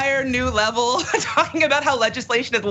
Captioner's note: laugh